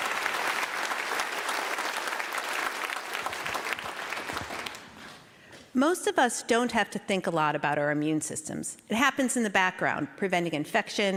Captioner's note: applause